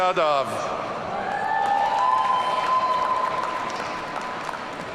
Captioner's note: audience cheering